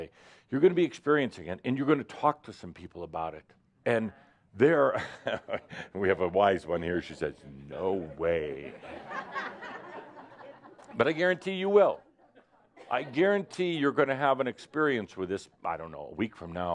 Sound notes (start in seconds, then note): 5.0 he chuckles; 8.6 laughter